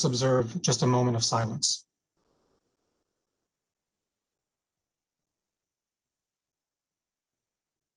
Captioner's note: silence